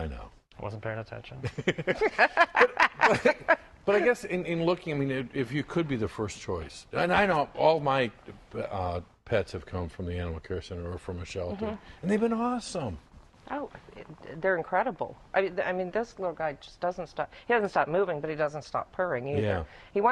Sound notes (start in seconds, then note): 1.4 laughter